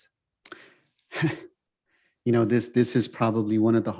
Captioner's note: sighs